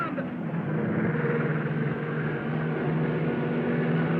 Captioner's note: cars revving